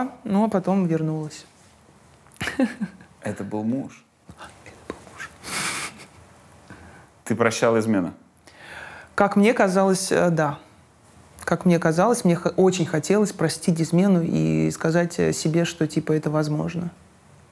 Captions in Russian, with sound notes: Ну а потом вернулась. (Ира смеётся) — Это был муж! — (шёпотом) Да, это был муж. (смеётся) Ты прощала измену? Как мне казалось, да. Как мне казалось. Мне очень хотелось простить измену и сказать себе, что это возможно.